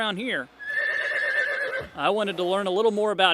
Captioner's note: horse nays